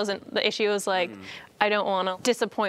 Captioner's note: none